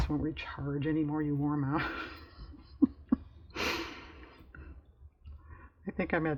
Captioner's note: laughs